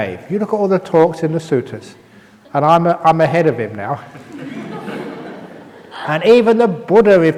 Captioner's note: laughs